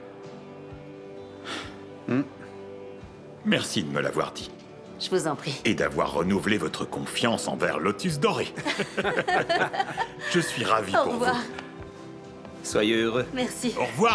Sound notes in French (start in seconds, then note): 2.0 George soupire; 8.5 rire